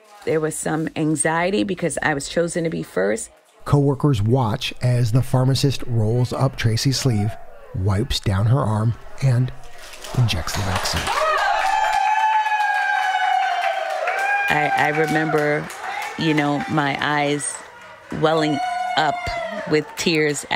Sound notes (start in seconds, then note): 11.5 applause